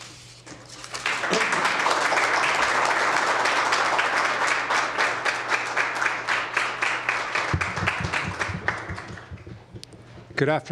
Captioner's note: applause